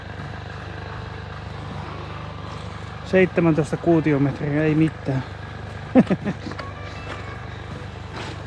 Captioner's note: laughs